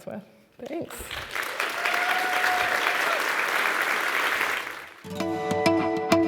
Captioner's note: applause